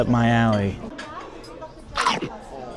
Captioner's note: background talking and plates clattering; chomp noise